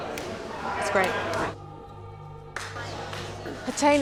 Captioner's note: participants clapping